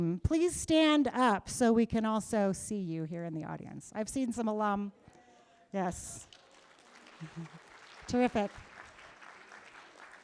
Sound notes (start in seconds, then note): 6.3 cheers, applause